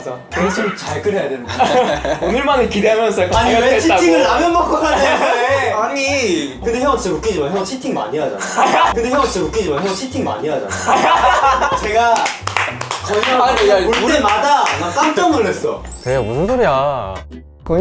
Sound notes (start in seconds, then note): 10.8 bursts into laughter